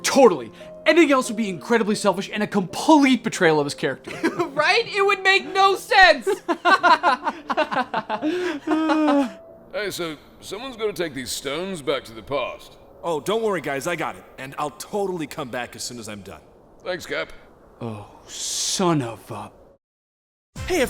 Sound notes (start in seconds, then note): 4.0 laughs; 6.0 men laughs